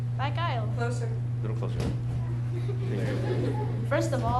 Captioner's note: audience laughing